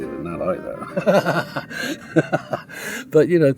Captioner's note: laughs